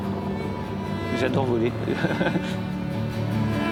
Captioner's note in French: rires